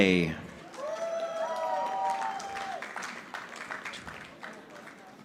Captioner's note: audience applauding